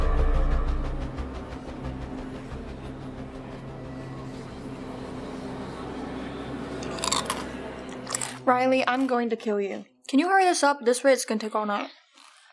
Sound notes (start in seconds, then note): 6.8 loud crunching